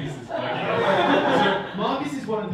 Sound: audience laughing

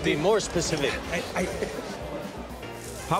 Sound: laughs

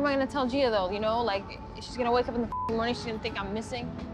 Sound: beep

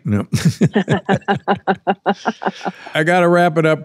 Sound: everyone laughing

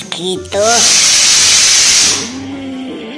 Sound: pressure cooker Whistle

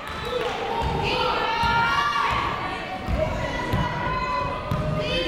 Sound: people shouting in the crowd

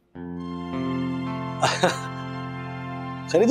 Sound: Rajesh chuckles

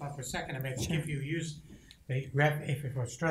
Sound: speaks quietly

